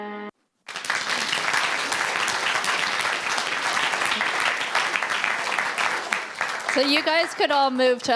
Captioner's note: applause